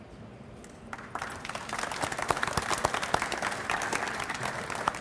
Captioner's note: audience applauds